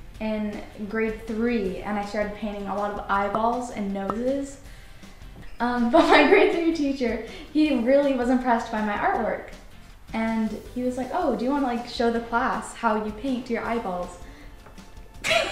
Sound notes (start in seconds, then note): 6.0 chuckles; 15.2 laughs